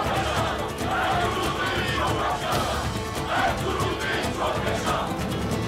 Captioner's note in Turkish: Hep bir ağızdan